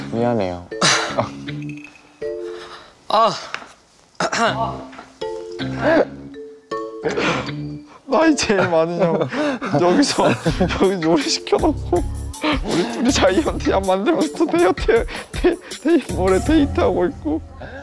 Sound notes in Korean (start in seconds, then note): 4.5 푸하하 / 푸하하